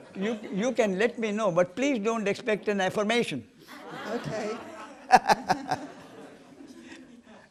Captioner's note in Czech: smích; smích